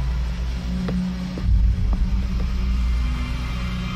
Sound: soft footsteps

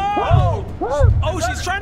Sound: muffled HELP!

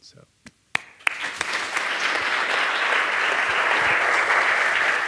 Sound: audience applauding

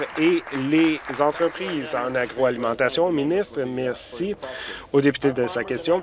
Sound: applause

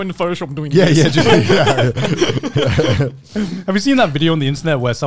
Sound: laughing

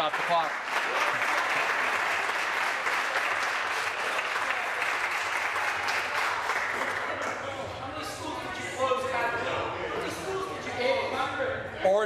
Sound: applause

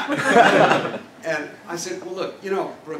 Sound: laugh

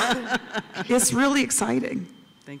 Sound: laughter

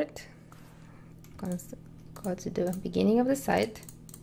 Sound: mouse clicking

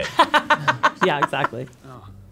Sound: laughing

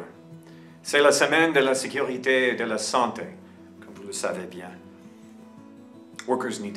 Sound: person speaking in French during this segment

